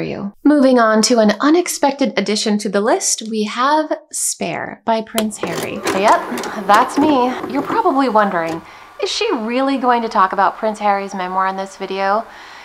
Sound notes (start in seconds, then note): 5.2 tape pausing